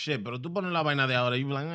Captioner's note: speaking In Foreign Language